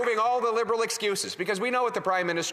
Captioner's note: applause